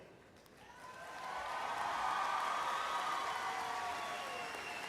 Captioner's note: applause